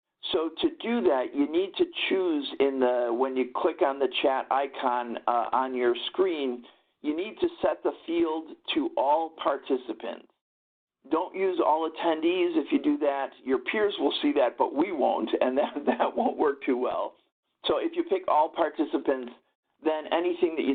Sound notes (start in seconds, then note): 15.5 chuckles